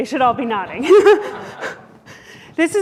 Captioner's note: laughter